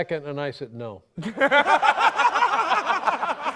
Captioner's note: laughter